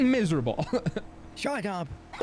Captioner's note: laughs